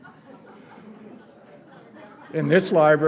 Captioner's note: laughter